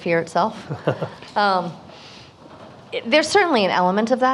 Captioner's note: laughs